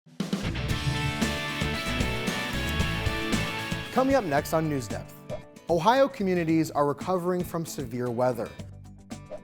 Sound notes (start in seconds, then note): 0.3 upbeat music; 5.3 screen whooshing